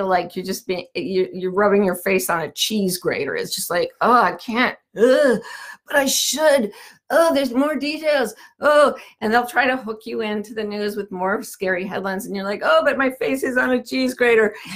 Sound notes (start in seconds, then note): 5.1 groans